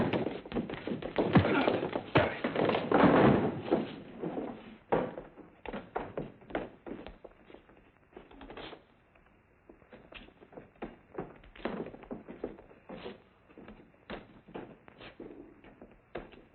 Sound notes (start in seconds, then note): 1.0 punching